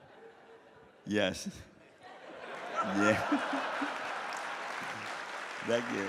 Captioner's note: laughs